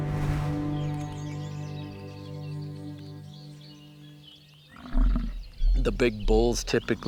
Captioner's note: birds chirping